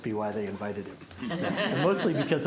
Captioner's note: laughter